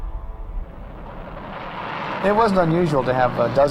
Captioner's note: engine roaring